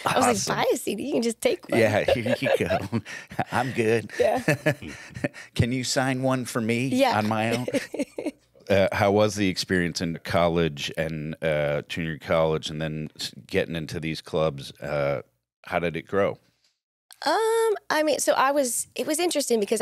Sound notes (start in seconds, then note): 4.8 laughs; 6.9 laughs